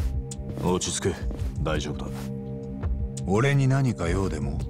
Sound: none

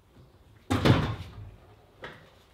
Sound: clatters and thuds

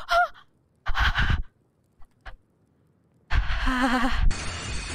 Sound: heavy breathing

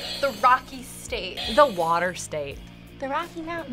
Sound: buzzer rings

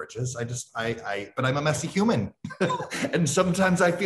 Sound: laughs

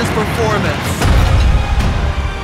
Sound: weights drop

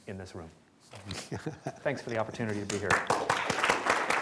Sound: laughter; applause

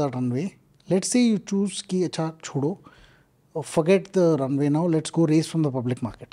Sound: speaks in Hindi

